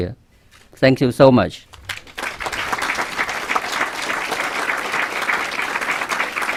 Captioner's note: clapping